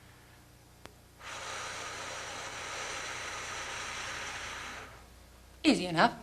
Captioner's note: breathing